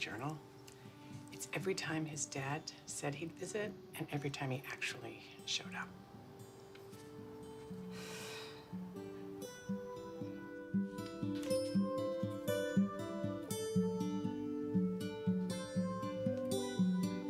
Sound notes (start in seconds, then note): 7.9 sighs; 10.1 sombre music playing